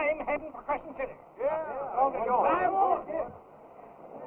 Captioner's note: men cheering